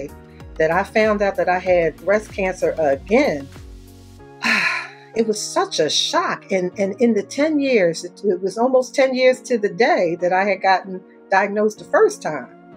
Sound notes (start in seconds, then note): 4.4 sighs